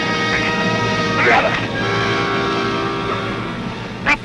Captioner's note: feet shuffling